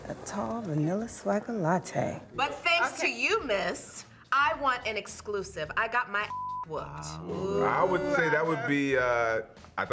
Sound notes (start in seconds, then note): 6.2 beep